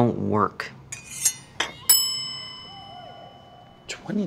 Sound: spatula scraping; bell ringing

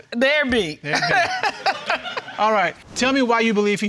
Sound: chuckling

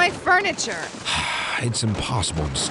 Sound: Fane sighs

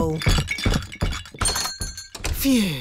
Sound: thumping

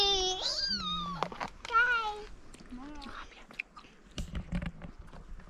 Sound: squealing

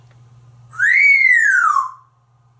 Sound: whistling

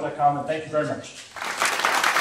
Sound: applause

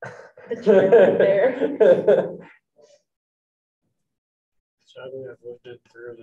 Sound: group chattering

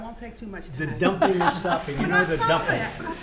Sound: laughter

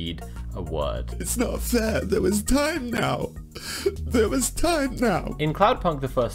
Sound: sobs

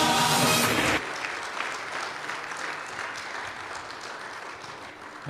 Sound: clapping

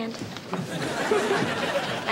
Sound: <i>giggles

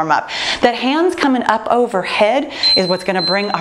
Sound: timer beeping

